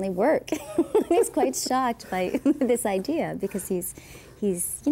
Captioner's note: laughing